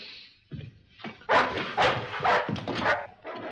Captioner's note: dog barks